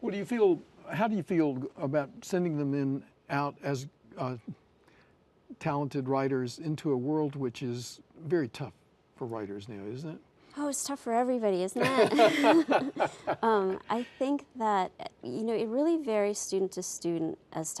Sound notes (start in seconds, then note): 11.8 laughs